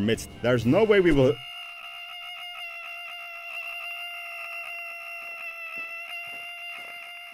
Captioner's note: distant screams